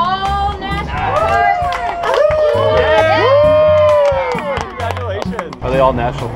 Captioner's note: yelling and cheering